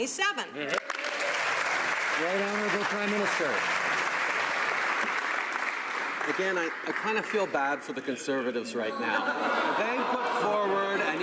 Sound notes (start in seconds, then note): 3.5 some Applause